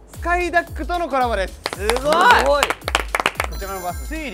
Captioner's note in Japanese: 拍手